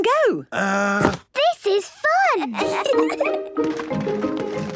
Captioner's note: kids giggling